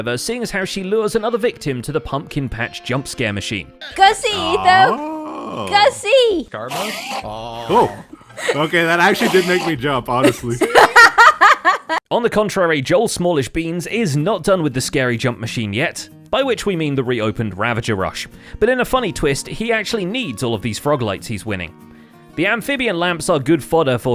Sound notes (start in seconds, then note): 6.5 Enderman noises; 6.6 laughs; 10.2 laughs louder